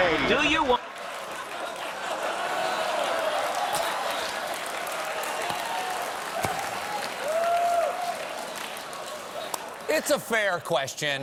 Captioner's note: applause; laughter